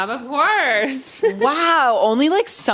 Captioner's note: laughs